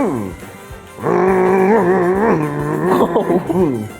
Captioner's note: mimicking car motor